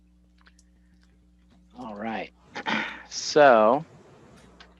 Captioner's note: clears throat